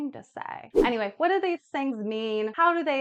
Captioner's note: air whooshing